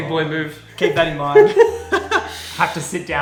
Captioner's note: laughs